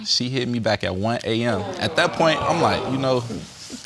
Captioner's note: audience groaning